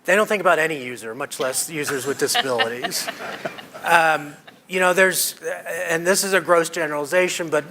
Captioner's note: laughter